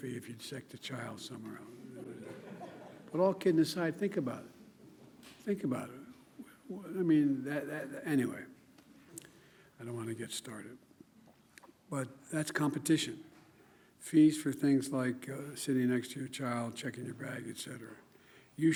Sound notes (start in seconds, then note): 1.8 laughter